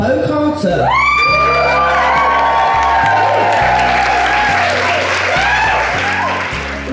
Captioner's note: audience Applause